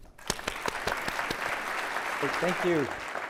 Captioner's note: applause